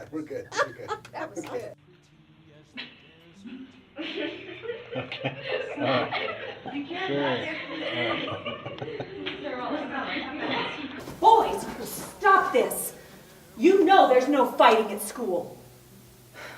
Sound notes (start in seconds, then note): 0.4 laughter